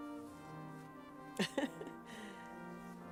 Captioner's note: laughs